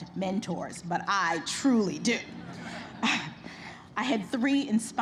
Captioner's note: laughter